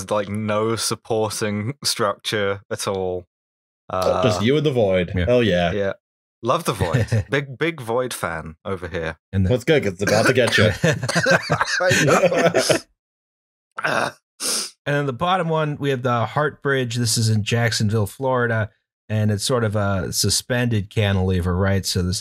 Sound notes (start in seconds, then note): 4.4 happily; 12.7 laughter mixed with coughing